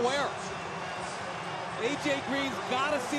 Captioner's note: pa announcement